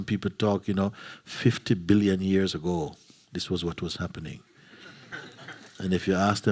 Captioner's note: laughter